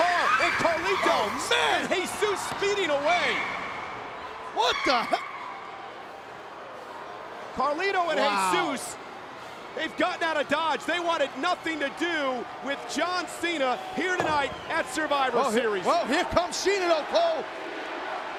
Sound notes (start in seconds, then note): 0.0 tires screeching; 5.0 crowd booing